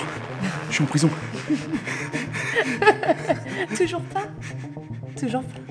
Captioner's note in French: rigole